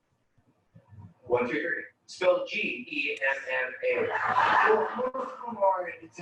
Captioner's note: laughing